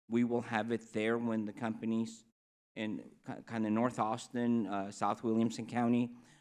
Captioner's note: none